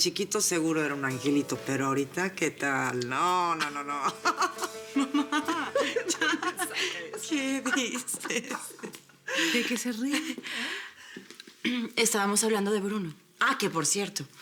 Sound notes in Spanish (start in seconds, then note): 10.1 Ríe; 11.8 Risas